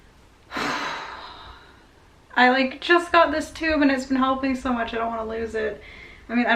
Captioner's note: sighs deeply